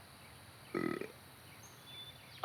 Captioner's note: burps